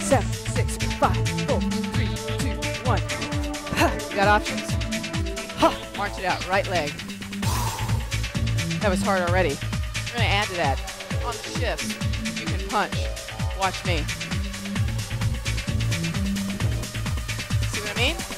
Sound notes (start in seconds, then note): 7.4 exhales; 14.5 energetic music